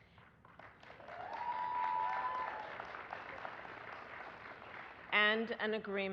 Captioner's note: applause